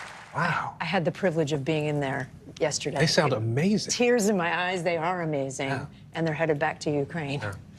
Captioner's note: applause